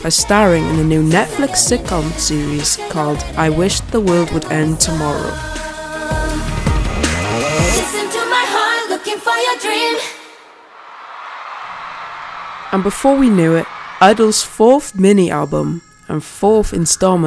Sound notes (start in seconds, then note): 10.7 cheers